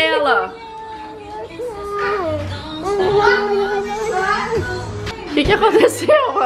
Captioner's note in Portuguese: balbuciando